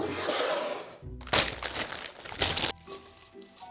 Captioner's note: bag rustling